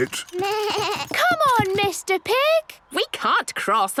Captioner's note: bleating